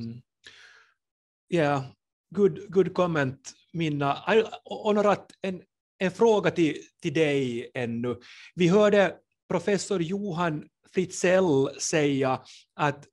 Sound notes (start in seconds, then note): 4.7 in Swedish